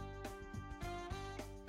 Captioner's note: none